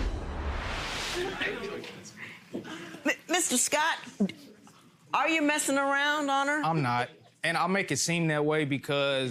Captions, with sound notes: (audience murmurs) - Mr. Scott, are you messing around on her? - I'm not and I'll make it seem that way